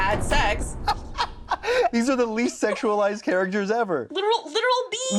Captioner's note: laughs